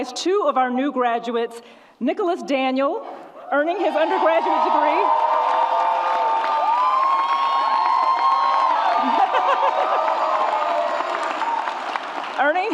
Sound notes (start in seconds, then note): 3.9 audience roars; 8.9 laughs